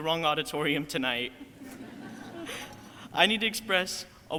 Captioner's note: crowd laughing